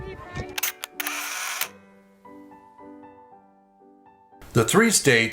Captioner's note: camera shutters